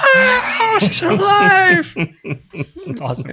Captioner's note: chuckling